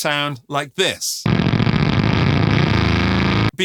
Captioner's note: blender whirring